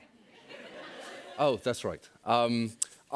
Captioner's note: laughter